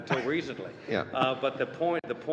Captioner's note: laughter